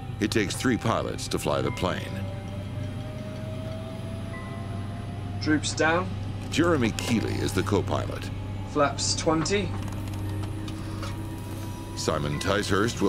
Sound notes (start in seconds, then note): 2.7 plane whirring